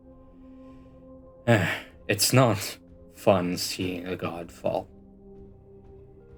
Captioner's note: sigh